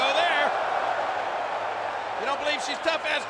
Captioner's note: crowd booing